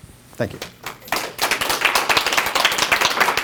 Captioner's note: applause